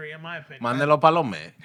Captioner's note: speaking Spanish